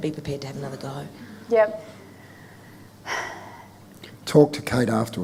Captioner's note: sighs